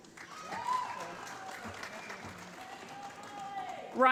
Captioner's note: applause